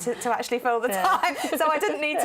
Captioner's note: laughter